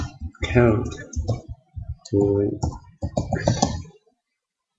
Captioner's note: speaking to self